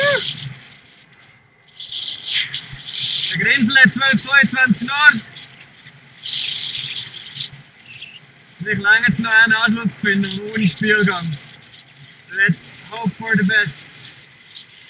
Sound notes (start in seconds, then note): 4.6 medium wind; 6.0 gusts